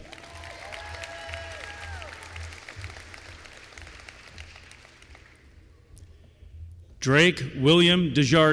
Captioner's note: applause